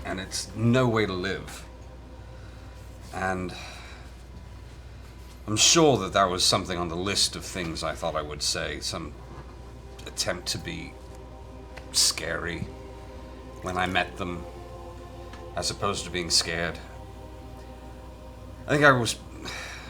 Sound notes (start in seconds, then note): 17.5 sighs